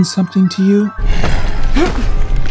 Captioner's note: Max growls